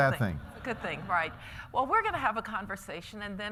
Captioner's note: laughter